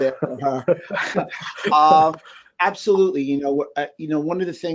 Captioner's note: laughing